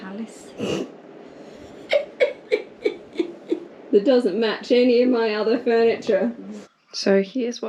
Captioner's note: scoffs